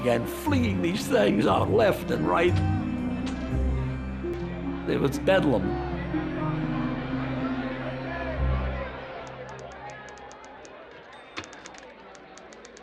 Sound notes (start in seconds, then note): 3.8 flashbulbs popping; 5.4 people clamoring; 9.2 typewriters clacking, chiming